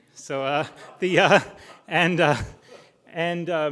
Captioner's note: crowd laughing